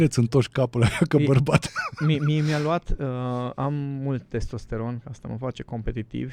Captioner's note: laughter